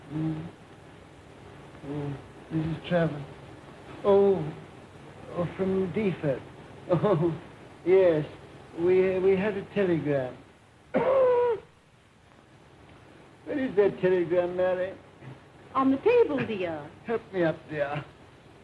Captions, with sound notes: HMM? OH, MRS. TRAVERS... OH, FROM DEEFORD? OH, YES. WE HAD A TELEGRAM. [COUGHS] WHERE IS THAT TELEGRAM, MARY? ON THE TABLE, DEAR. HELP ME UP, DEAR.